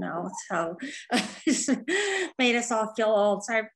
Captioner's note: laughing